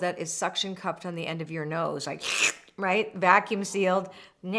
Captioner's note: slurping